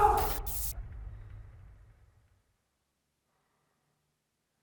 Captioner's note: Jacob screams; suspenseful music; static crackles